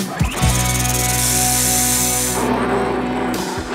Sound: rattling sound

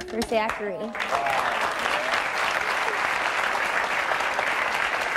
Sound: audience applauding

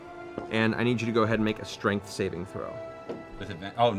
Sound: none

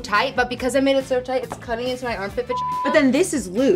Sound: beep

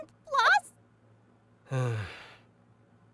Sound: sigh

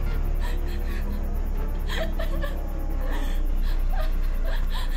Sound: Allie whimpers

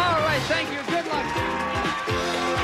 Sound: audience applauding

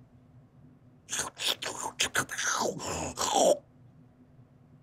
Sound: chewing

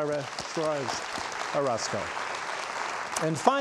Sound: audience applauds

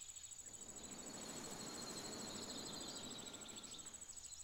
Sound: wind, leaves rustling

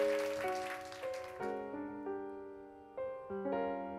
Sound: cheers and applause

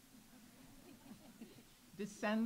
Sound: audience laughs

